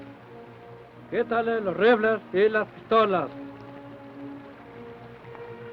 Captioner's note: Chief speaks foreign language